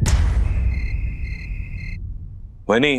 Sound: insects chirping

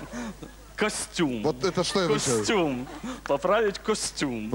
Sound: laugh

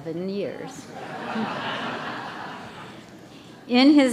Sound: laughter

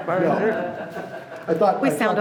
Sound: laughing

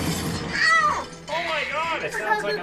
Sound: yells

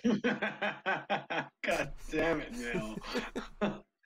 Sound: chuckling

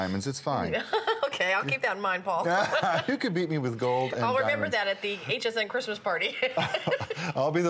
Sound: laughter

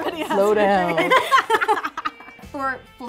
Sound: all laugh

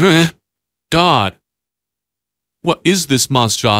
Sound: laughing

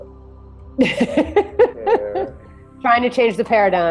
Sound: client laughing

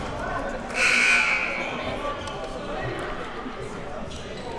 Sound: buzzer

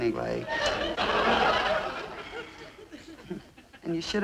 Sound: audience laughing

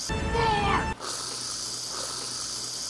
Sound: whipped cream spurting

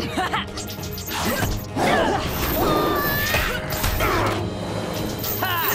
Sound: chuckles; grunting

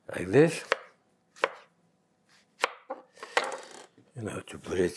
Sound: knife chops

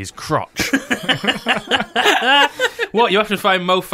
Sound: laughter

